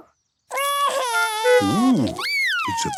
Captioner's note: cries